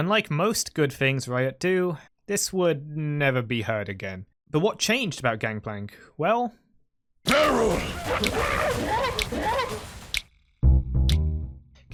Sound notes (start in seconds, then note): 7.2 Donkey Kong Noises